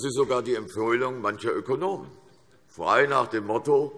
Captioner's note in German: none